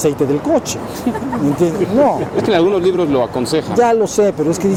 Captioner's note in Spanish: Risas